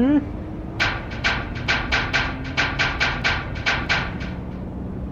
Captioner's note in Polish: ponowne pukanie do drzwi